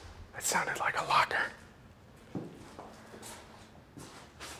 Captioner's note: whispers